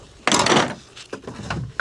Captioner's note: clanking